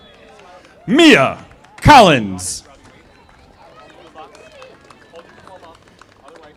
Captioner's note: audience applauding